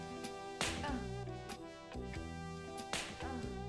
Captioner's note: smack